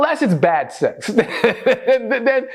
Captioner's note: laughter